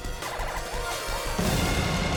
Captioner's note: siren wailing; intense music